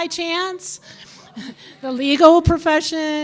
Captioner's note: audience laughing